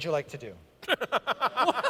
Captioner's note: laughter